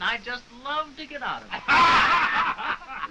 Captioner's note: all laughing